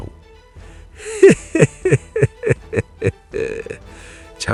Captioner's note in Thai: เสียงหัวเราะ